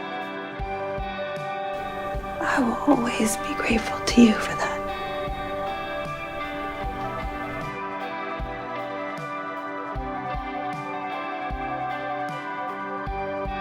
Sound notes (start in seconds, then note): 2.5 voiceover